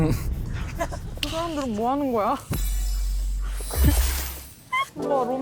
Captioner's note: spell-casting sound of love